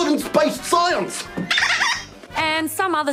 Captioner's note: squeaks toy